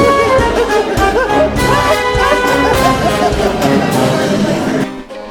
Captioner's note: creepy clown laughter